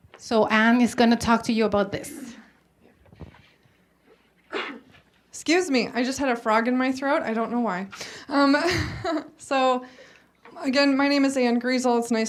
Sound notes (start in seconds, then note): 4.4 coughs; 8.5 laughs